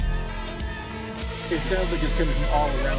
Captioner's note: high pitch humming